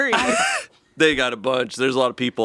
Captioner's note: laughs